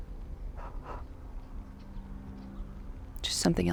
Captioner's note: Arawn breathes uneasily